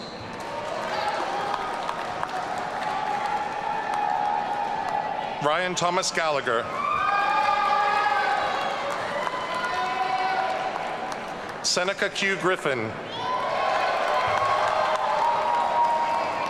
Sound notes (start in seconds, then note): 0.2 audience cheering; 13.1 audience cheering